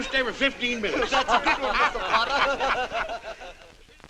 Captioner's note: all laughing